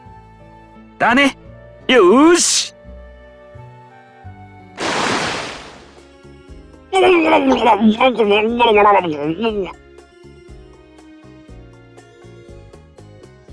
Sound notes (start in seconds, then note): 6.3 bubble bubble